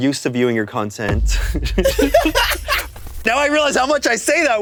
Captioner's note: everyone laughs